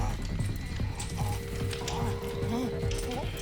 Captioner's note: grunts